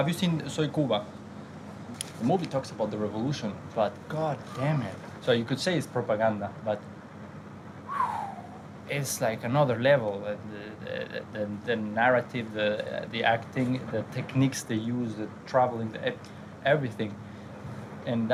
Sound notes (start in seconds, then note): 7.8 whistles